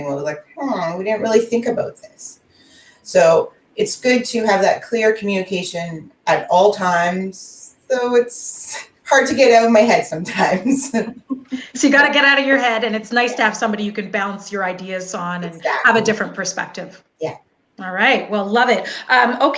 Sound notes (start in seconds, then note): 10.8 laughing